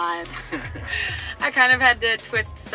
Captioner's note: both laughing